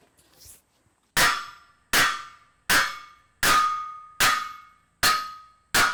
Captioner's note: sledge hammer clanging